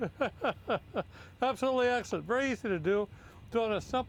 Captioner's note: laughing